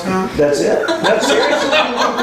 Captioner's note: laughter